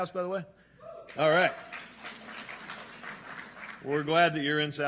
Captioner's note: scattered claps and cheers